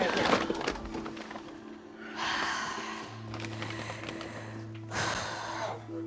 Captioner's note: breathing deeply